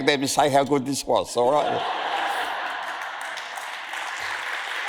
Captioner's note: audience laughs and applauds